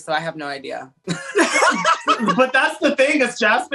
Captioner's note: laughs